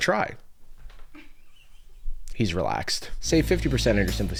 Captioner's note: laughs